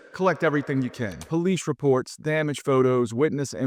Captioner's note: screen clicking